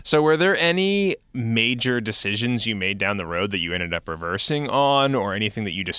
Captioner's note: none